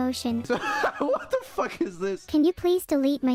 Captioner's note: laughing